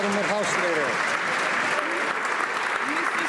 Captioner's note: some Applause